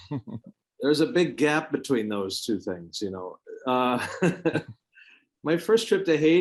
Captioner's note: laughs; laughs